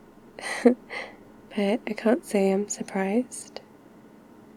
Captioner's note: laughs